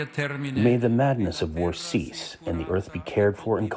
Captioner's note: through translator